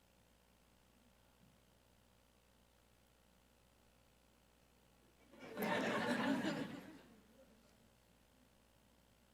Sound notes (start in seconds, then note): 5.3 audience laughs